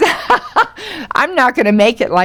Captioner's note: Lily laughs